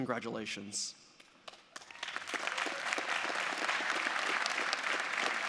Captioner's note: audience applauding